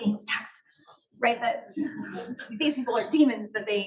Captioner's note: audience laughs